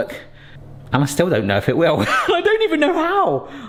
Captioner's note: laughs